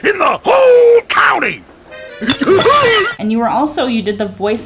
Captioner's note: glass smashing